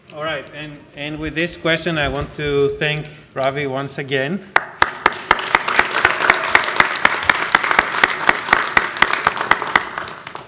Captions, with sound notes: - And with this question, I want to thank Ravi once again. (audience applause)